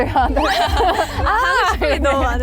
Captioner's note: heheh